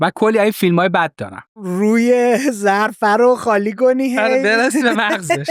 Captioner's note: laughs